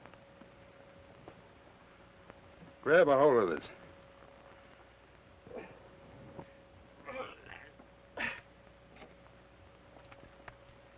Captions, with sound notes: Grab a hold of this. (Sheriff groans)